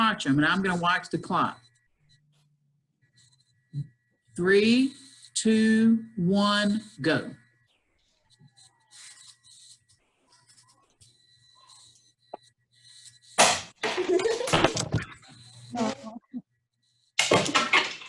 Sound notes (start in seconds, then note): 5.8 campers laughing while doing activity